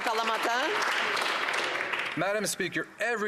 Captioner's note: applause